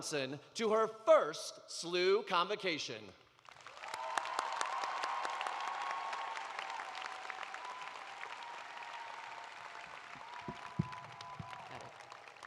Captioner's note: cheers and applause